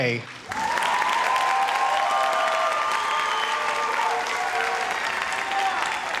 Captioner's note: audience cheers and applauds